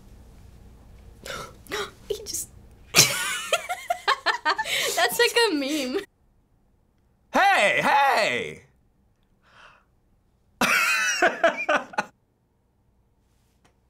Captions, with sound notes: - (gasps) - (gasps) - He just-- (both cracking up) - That's like a meme. - Hey! Hey! (cracks up)